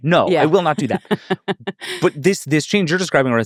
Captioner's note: laughing